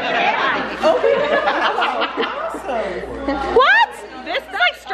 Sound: laughing

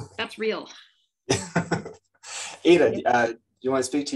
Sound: laughs

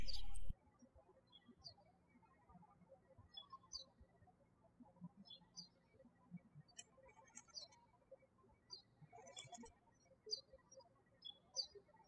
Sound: birds chirping

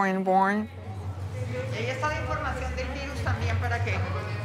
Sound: speaking Spanish

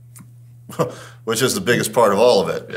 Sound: chuckles

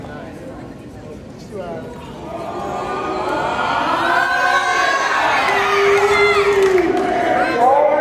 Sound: yelling from audience

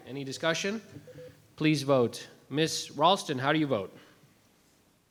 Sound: none

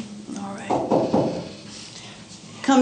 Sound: knocking

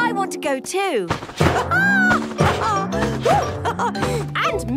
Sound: laughs

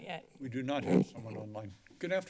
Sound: squeaky chair

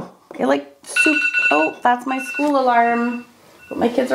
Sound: alarm rings

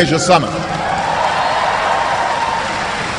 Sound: cheering

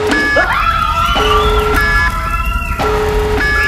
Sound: siren blaring; screaming; lava crackling

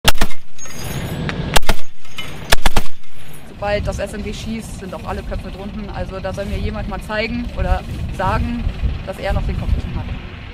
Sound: heavy machine gun

